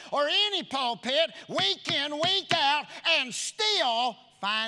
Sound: none

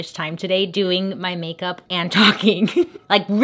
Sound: laughs

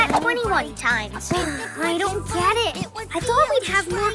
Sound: sighs

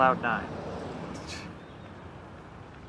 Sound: scoffing

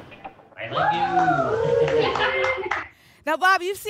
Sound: applause and cheering

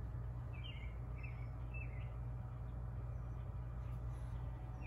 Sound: birds chirping continues

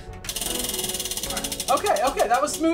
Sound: wheel spinning

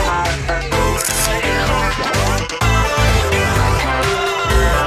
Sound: camera shutter click

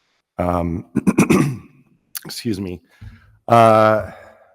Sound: clears throat

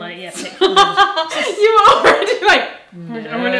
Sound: laughing

